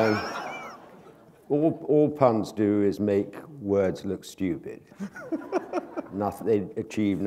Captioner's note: laughter